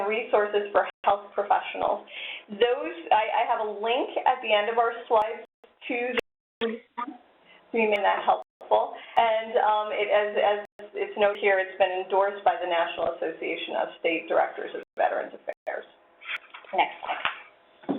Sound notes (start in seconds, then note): 6.1 voice distorting